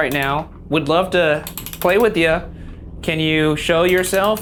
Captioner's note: knob clicks